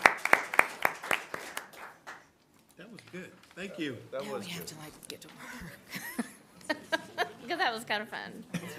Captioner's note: applause